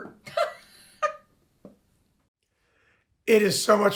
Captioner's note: laughing